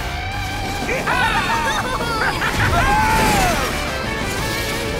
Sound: cheering

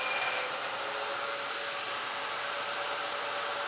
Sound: saw brattling

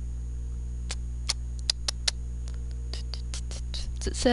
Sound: makes annoying mouth noises while waiting

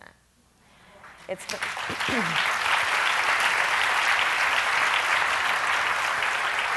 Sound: audience claps

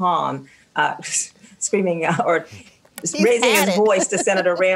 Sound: laughs

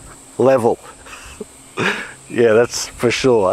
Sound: laughing

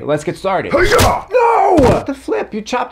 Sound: Writer's Block grunts

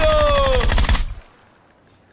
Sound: shooting

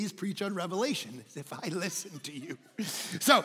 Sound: congregation laughing

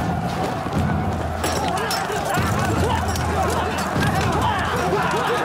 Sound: dramatic music; soldiers yelling; weapons clanking

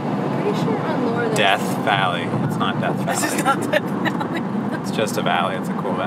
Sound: laughing

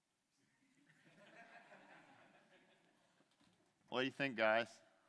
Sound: light laughter

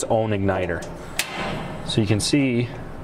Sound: clicks

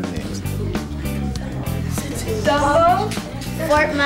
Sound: giggling

